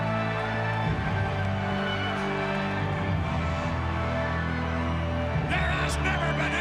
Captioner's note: crowd cheering continues; sinister music continues